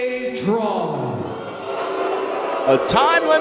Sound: crowd booing

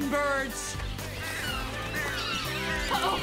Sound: chirping

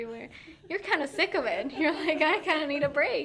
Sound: laughing

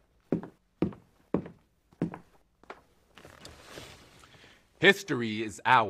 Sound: footsteps

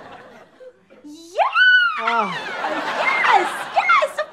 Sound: squealing

